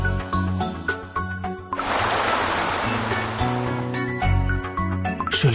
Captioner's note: crash